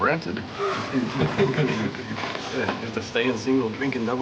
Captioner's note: laughs